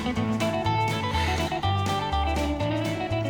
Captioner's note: sighs